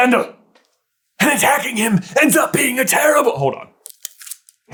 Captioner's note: Voldemort voice